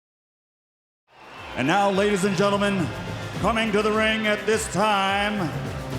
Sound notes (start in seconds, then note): 1.1 crowd cheering